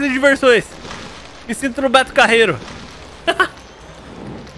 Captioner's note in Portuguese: risos